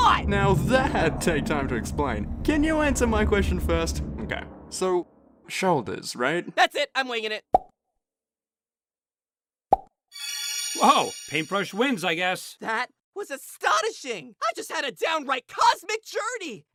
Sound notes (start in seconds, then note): 7.5 pop; 9.7 pop